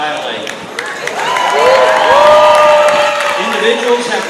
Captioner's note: cheers